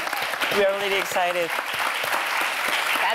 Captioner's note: all applauding